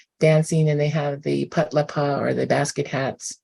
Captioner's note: non-english